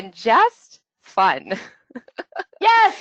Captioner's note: laughs